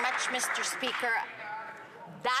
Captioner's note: some Applause